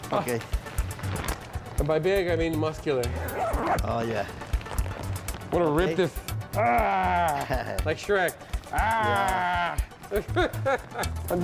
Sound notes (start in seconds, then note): 6.8 growls; 8.7 growls and laughs